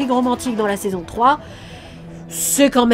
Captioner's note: sigh